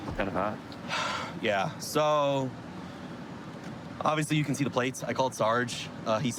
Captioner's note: sighs